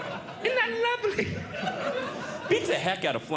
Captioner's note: audience Laughing